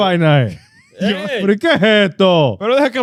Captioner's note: speaking In Foreign Language